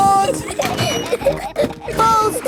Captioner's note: giggling